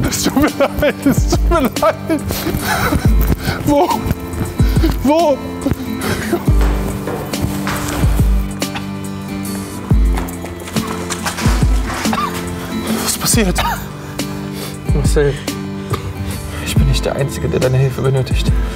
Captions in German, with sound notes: Es tut mir leid! Es tut mir leid! Wo? Wo? *Traurige Musik* Was ist passiert? *Husten* Marcel, ich bin nicht der einzige, der deine Hilfe benötigt.